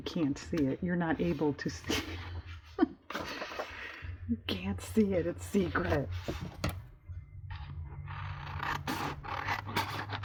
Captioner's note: laughs